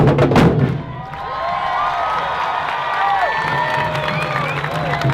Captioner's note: applause